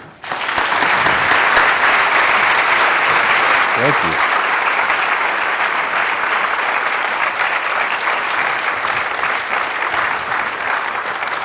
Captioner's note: applause